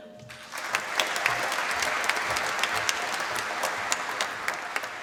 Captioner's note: applause